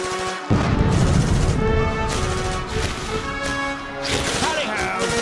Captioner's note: screaming, gunfire and explosions